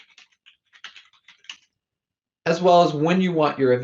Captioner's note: keyboard typing